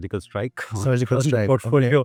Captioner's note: chuckles